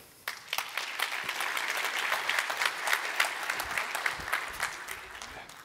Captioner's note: applause